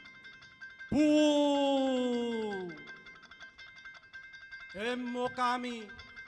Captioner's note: man speaking in Indonesian